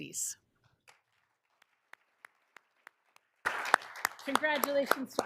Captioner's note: all applauding